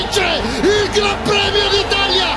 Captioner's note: commentator in Italian